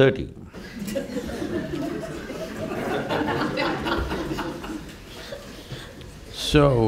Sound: laughter

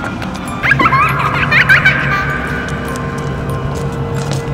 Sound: child giggling

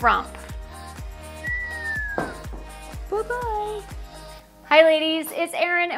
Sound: whistling

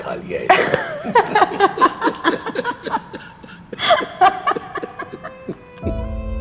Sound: laughs

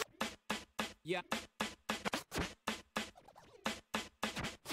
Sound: record scratching

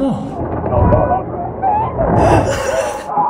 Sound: yelps

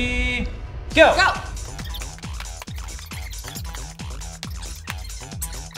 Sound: sped up audio sound effect; intense techno music plays

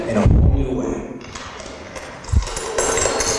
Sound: shattered glass

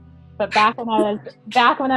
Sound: laughing

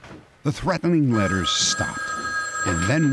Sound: phone ringing

